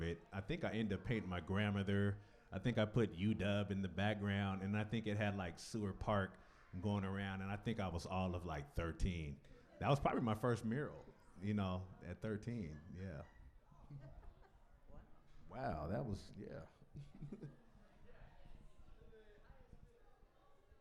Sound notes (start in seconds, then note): 16.8 chuckles